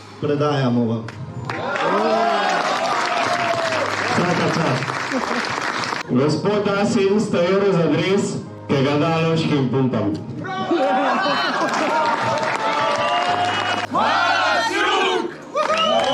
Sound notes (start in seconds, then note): 11.4 applause